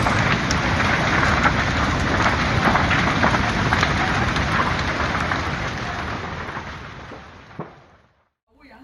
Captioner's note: sonido fuego